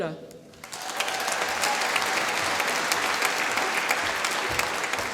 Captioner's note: applause